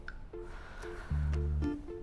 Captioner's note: Inhales